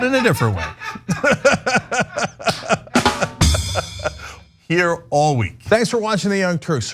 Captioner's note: laugh